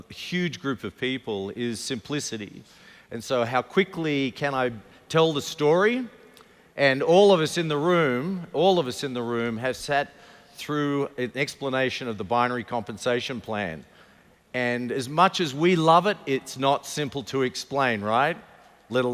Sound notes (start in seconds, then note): none